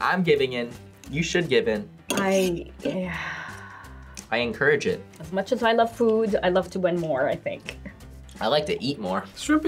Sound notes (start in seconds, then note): 3.0 sighs